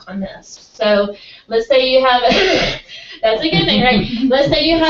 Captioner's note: laugh